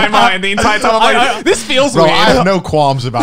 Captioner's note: all laugh